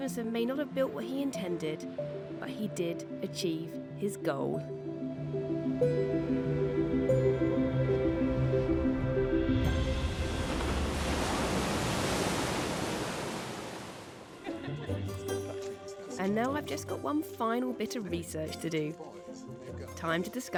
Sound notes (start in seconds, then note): 6.6 gentle music; 9.6 water splashing